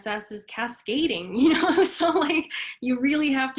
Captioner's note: laughs